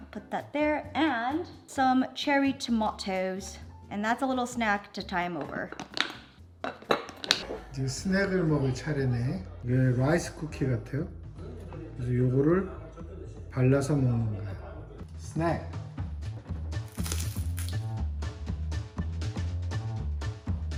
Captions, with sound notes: I'll put that there. And some cherry tomatoes. And that's a little snack to tie him over. (Appa speaking Korean) - Snack. (rice cracker snapping) (upbeat music)